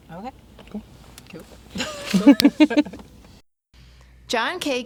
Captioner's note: everyone chuckles